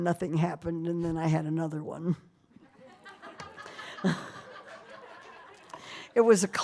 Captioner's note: laughter